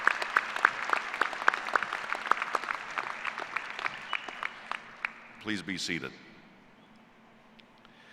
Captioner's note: applause